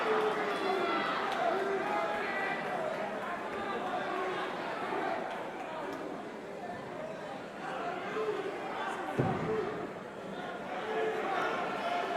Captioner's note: crowd chatter